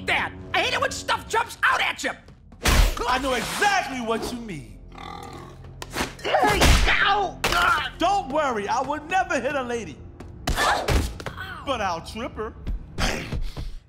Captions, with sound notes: I hate it when stuff jumps out at ya! I know exactly what you mean! [grunting] Hey. Ow. Uh. Don't worry. I would never hit a lady. But I'll trip her.